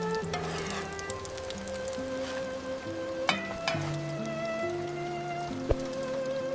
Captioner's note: the quesadilla crisping in the skillet